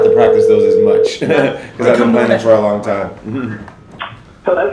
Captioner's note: laughs; laughs